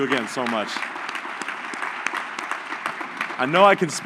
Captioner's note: applause